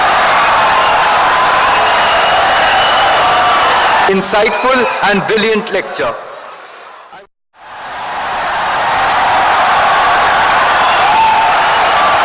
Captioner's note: wild applause and cheering for 17 seconds